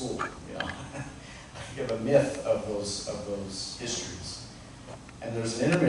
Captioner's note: chuckles